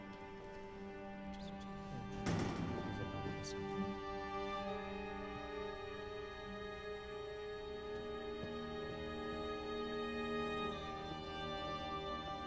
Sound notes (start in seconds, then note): 1.5 indistinct chatter; 1.9 door opens